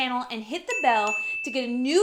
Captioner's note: bell dings